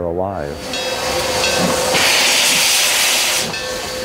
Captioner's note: steam hissing